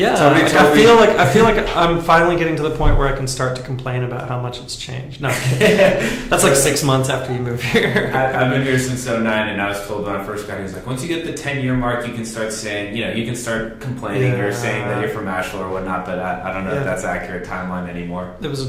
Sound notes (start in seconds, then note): 5.2 laughs